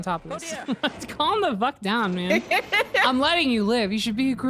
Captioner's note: laughs